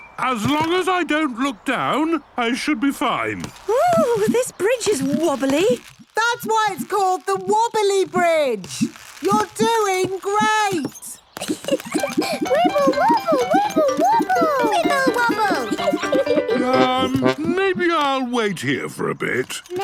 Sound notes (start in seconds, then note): 11.4 giggles